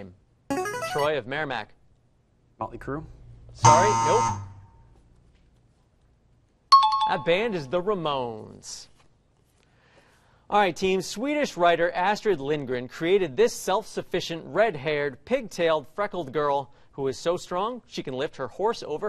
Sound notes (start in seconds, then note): 0.0 buzzer plays; 3.6 buzz; 6.7 bell rings